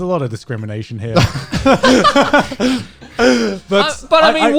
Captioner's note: guys laughing